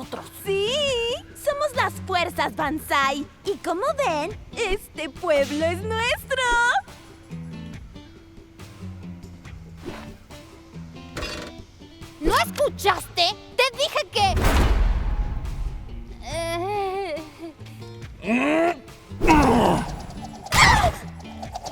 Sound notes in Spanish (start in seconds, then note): 14.3 metal doblándose; 18.2 Howie gruñe